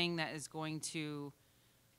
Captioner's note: none